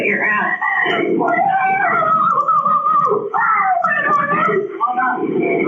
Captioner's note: crying